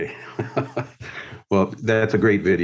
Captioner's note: laughing